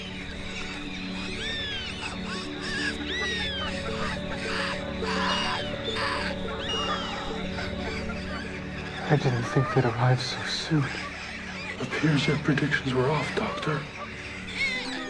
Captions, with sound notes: (Birds squawking and chirping) - I didn't think they’d arrive so soon... - Appears your predictions were off, Doctor...